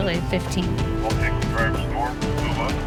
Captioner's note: police radio